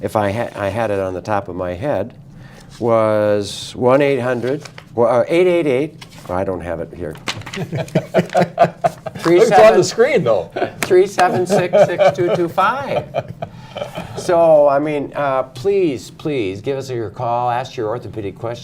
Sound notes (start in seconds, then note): 7.5 laughter